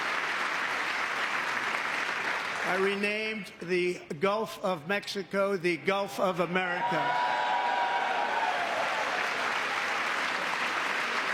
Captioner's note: applause